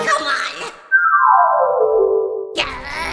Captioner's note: flashback descending sound effect